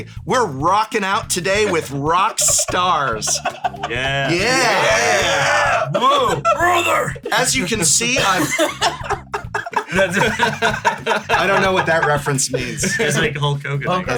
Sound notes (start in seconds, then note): 1.6 laughs; 6.5 Hulk Hogan voice; 8.1 laughter